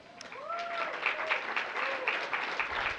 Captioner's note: applause